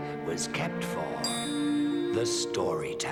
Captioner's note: clinks